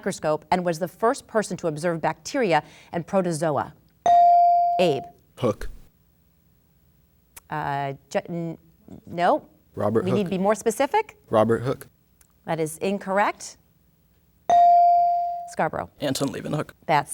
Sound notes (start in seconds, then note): 4.0 bell dinging; 14.5 bell dinging